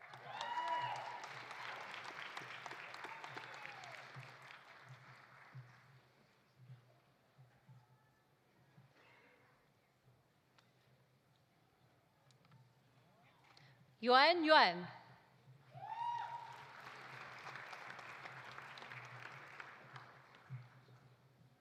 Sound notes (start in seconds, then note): 0.0 audience cheering; 0.0 audience applauding; 15.7 audience cheering; 15.8 audience applauding